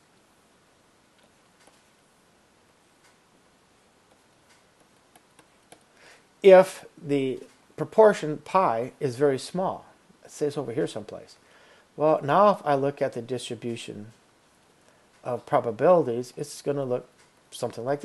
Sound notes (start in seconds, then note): 1.2 clicking; 4.0 background clicking